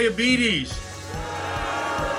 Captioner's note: crowd